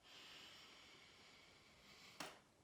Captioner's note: breathing deeply